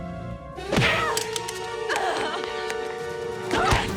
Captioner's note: shouts